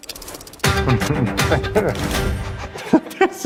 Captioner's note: chuckling nervously